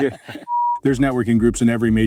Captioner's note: laughs; program beeps